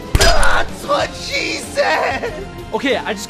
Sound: screaming

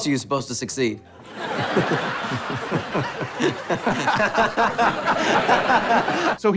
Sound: laughing

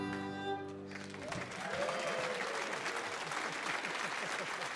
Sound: audience cheering

